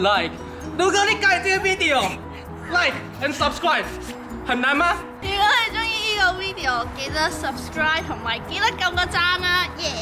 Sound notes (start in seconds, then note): 5.1 Cantonese